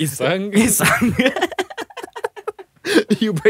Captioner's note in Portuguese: risos